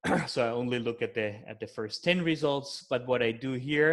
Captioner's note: clears throat